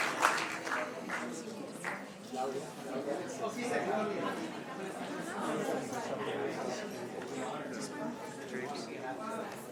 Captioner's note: applause